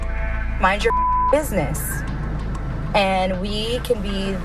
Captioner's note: beep